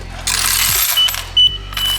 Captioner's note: clatter